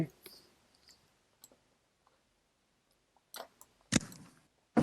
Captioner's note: mouse clicking